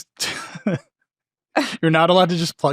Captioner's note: laughing